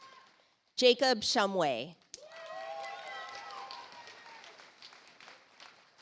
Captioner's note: audience applauds